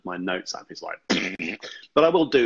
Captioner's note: makes raspberry sound